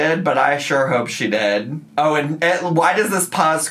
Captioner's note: none